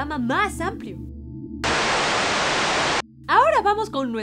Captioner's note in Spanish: Estática